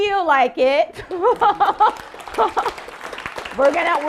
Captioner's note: audience applauding